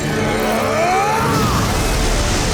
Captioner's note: grunting